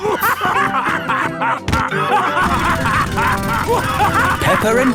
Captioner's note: both laughing; drilling